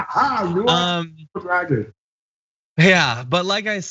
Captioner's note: laugh